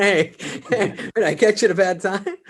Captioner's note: David chuckles